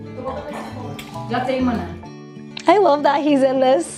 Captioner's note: indistinct chatters